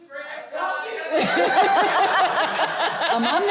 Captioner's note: laughter